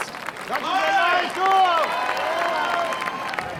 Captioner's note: cheering and applause